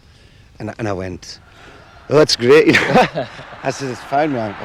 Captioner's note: laughs